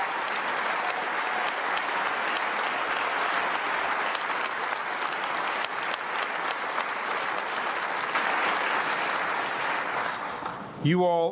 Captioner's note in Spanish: aplausos